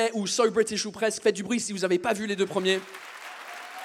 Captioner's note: audience claps